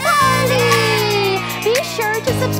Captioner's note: cheering